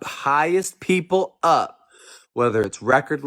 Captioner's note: none